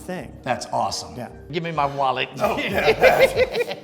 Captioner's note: laughs